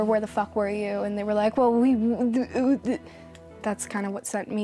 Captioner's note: imitates stuttering